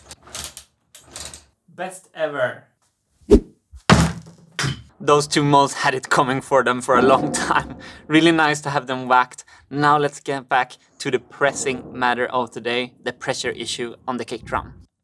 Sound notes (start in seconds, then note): 0.0 mechanism clicking; 2.8 whirl; 3.8 whack